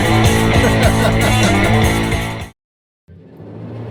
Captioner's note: laughing